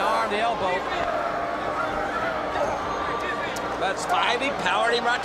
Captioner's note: crowd chatter